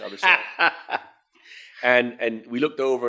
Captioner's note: laughing